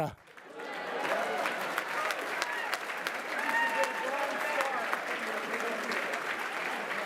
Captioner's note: applause